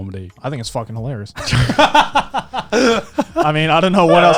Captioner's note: both laughing